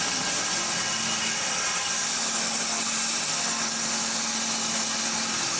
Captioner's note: saw whirring continues